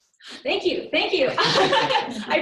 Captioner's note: laughter